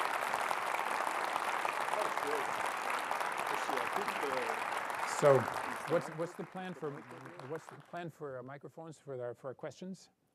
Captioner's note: applause